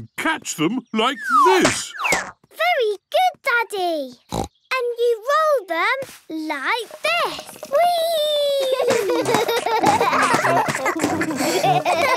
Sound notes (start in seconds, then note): 4.3 snorts; 8.6 both laugh